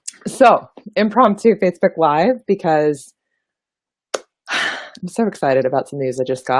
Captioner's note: happy sigh